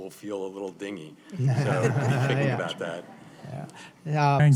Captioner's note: laughter